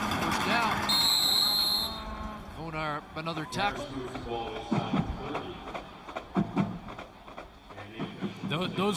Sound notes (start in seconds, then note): 0.1 noisemakers; 3.0 crowd din